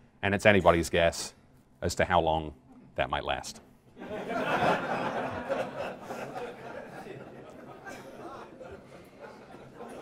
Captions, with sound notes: and it's anybody's guess as to how long that might last. [LAUGHTER]